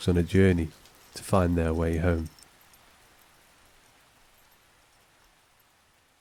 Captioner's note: dog tags jingling